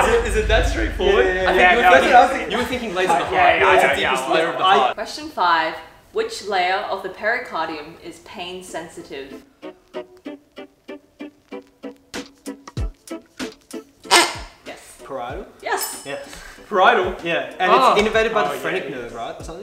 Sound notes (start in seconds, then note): 14.1 squeaks